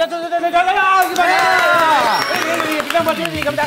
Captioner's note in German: Applaus, Jubel